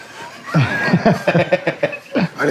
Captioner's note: laughing